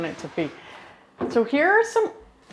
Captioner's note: drawer scraping open